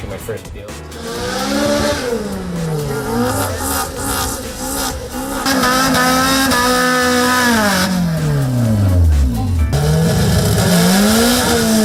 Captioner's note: cars revving